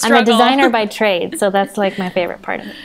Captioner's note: they laugh